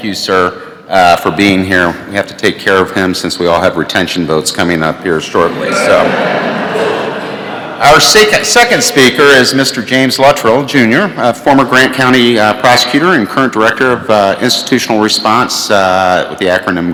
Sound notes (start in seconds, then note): 5.4 laughter